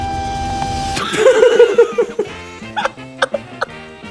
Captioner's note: laughing